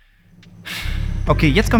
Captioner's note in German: lauter Seufzer